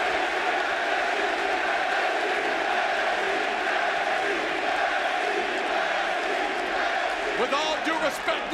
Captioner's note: crowd cheering